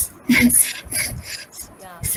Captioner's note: laugh